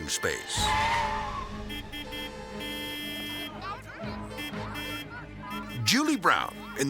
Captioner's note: tires screeching and cars honking